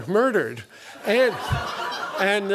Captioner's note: laughter